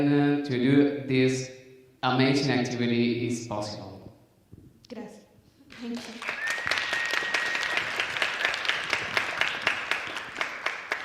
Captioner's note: applause